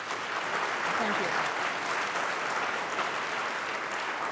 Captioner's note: applause